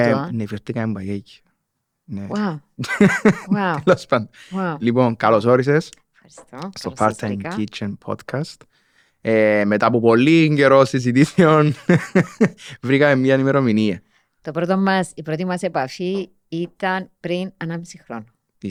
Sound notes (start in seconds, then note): 2.8 laughs; 11.2 he laughs